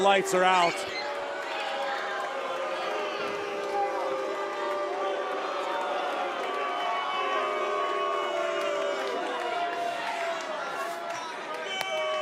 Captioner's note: crowd cheering